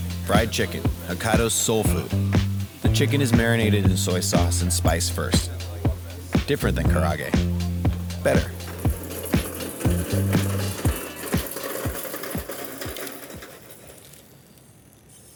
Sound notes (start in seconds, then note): 9.3 cart whirring